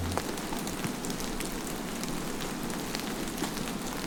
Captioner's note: heavy rainfall splattering